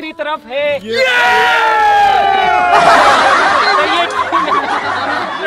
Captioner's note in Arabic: صراخ